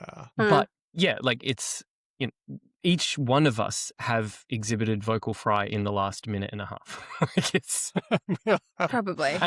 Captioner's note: laughter